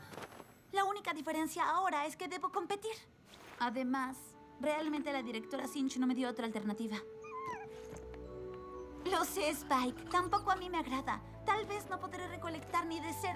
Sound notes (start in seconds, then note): 7.2 whine